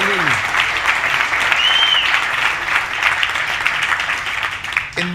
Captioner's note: audience applauding